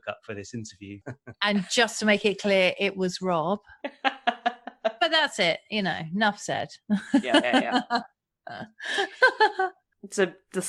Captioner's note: laughs